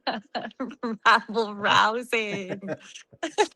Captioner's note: laughing